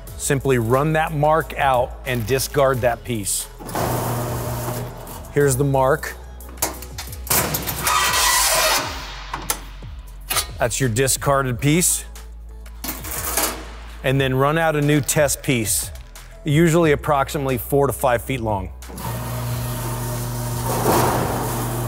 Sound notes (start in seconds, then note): 8.1 handle squeaking; 18.9 machine humming